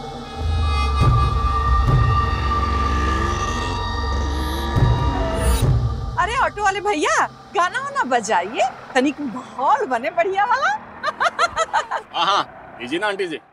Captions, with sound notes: Well, why don't you play some songs? Play something good. [laughing] Sure, here you go.